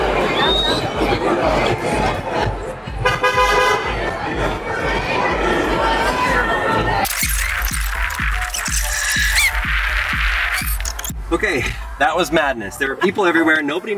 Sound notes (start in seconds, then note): 0.2 passerby whistles; 3.0 horn honking; 7.0 video winding